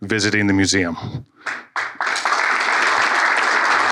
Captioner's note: applause